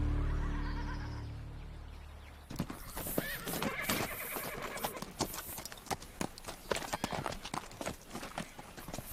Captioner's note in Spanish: Relinchos